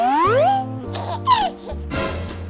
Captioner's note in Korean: 헤헿